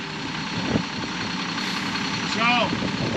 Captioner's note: truck revving